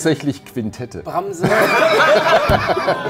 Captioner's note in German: Lachen